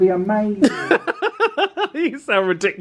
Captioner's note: laughs